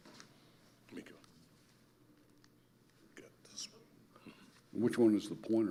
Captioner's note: speaking quietly